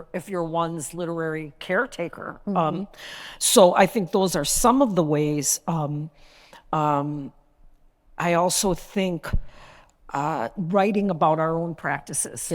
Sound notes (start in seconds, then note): none